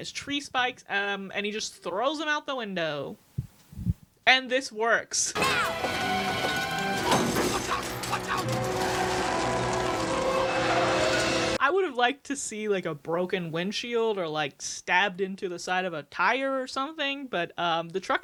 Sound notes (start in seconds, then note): 6.5 metal spikes clanking